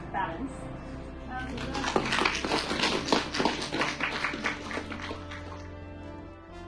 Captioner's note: collective applause